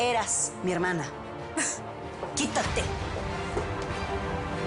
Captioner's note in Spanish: Regina solloza